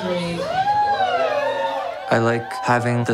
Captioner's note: audience cheering